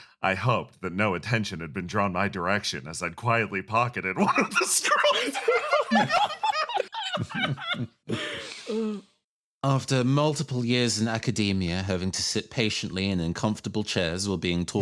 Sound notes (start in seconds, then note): 4.1 laughs